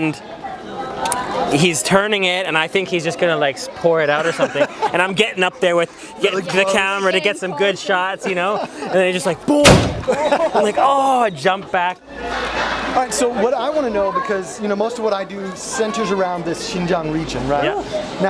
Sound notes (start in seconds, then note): 9.3 laughs